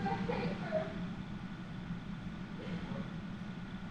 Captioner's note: sobs